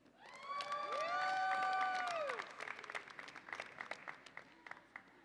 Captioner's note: audience applauds and cheers